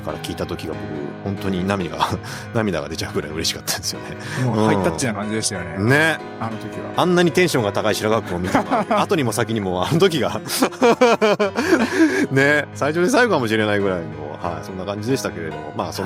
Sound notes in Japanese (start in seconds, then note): 10.4 笑い